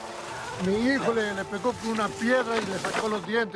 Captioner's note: speaking spanish